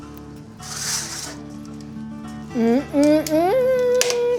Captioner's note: cheerful bright music continues; cheerful music continues; oven tray shuffling